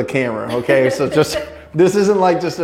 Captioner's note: laughs